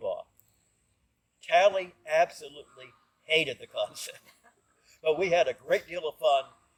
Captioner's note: chuckle